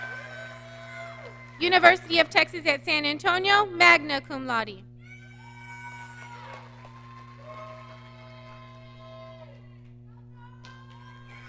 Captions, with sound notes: University of Texas at San Antonio, Magna Cum Laude. (audience cheering)